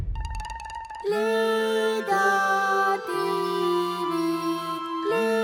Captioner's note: higher pitched